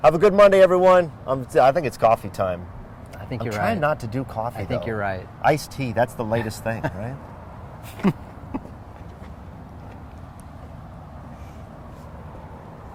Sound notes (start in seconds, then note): 7.8 laughter